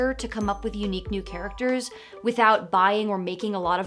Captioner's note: none